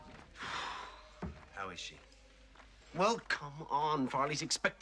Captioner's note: Вздыхает